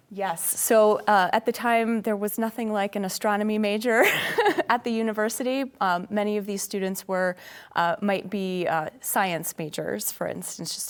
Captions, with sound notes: - Yes, so at the time, there was nothing like an astronomy major [laughs] at the university. Many of these students were, might be science majors, for instance.